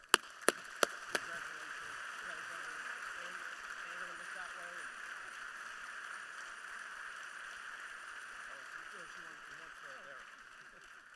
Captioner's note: applause